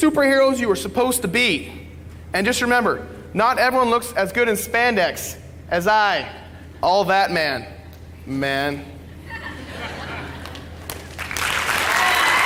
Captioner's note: applause